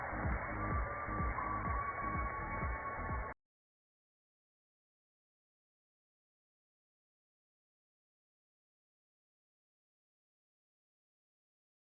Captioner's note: cheers and applause